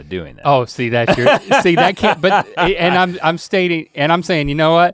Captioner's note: Rhett guffaws